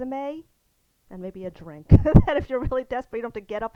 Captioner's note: laughs